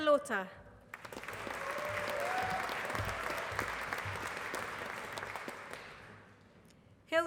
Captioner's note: applause